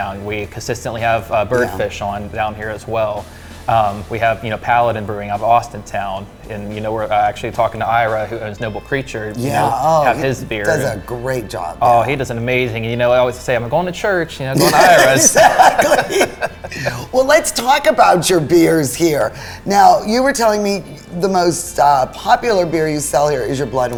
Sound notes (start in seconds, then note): 14.5 laughing